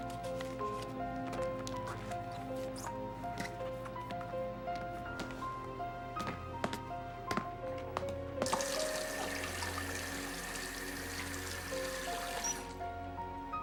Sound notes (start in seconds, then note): 8.4 water flowing; 12.3 valve closes